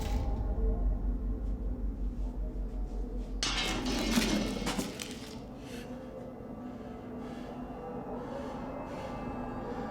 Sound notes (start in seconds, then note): 3.4 eerie music; 3.4 metal rattling